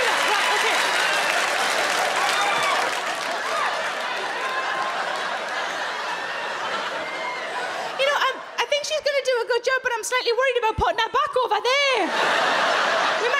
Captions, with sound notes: Right, okay. (crowd laugh) You know, I think she's gonna do a good job but I'm slightly worried about putting her back over there.